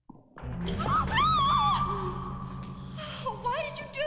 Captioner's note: both screaming